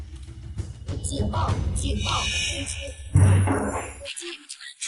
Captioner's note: alarm